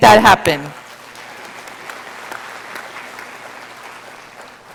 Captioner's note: audience applauding